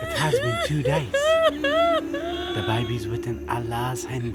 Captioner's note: weeping